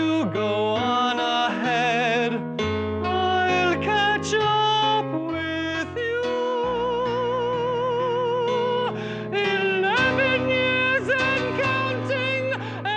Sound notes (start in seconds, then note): 3.0 change to falsetto